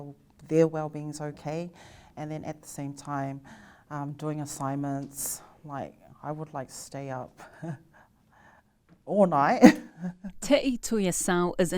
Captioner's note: laughs